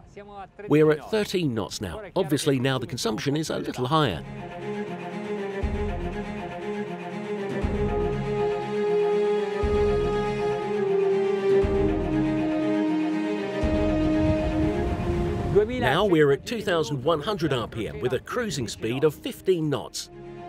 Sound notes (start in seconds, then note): 4.3 cinematic music; 15.2 speaking in Italian